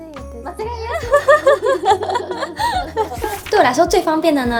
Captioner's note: laughter